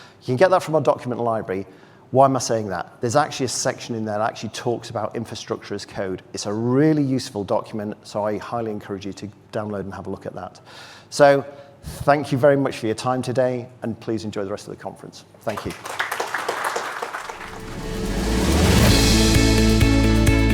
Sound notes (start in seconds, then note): 15.4 audience applauding; 17.3 upbeat music